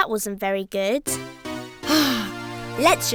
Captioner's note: sighing